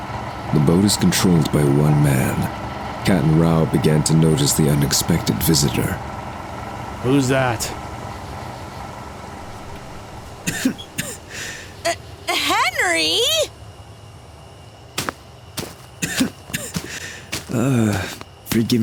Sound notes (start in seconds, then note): 7.8 coughs; 7.8 motorboat approaches and stops; 15.6 Henry walks and coughs